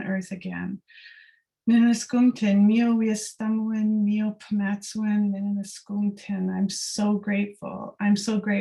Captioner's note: non-english speech